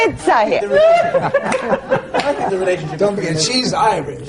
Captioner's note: laughter